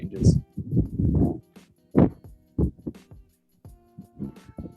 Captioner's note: wind blowing